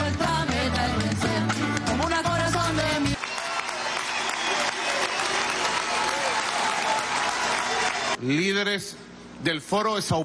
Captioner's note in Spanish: aplauso